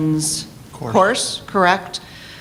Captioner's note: voiceover